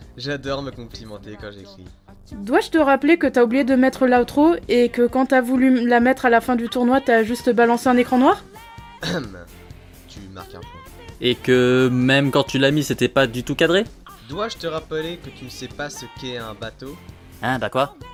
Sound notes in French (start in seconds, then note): 8.9 tousse